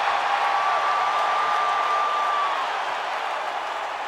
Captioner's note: audience cheering